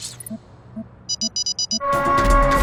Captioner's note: siren noise